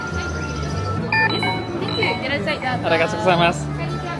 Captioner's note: sensor beeping; and cast speaking Japanese